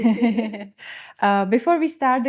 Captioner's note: laughing